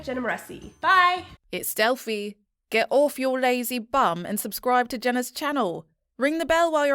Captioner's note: confident Female Voice